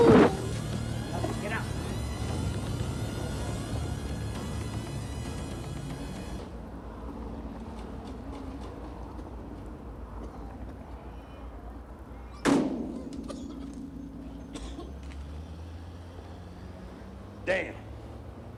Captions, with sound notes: - Get out. (car engines revving) (door thudding) (thug coughing) - Damn.